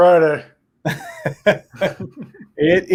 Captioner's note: both laughing